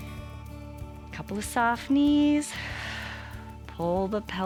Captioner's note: exhales